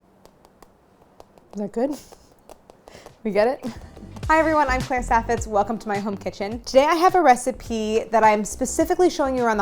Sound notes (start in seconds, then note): 0.0 tapping